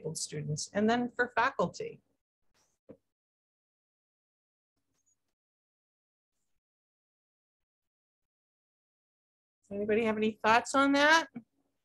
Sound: quiet audience

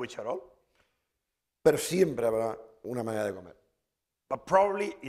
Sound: speaking spanish

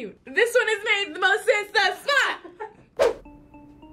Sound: React laughs

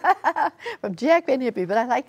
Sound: laughter

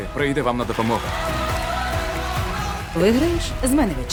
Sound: applause

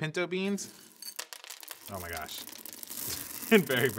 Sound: beans clatter

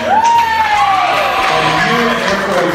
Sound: cheering

